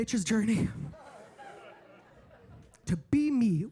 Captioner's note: audience laughing